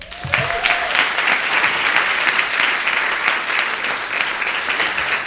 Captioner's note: applause